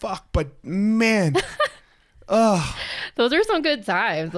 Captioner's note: groans